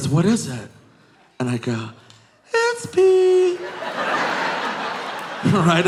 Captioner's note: audience laughing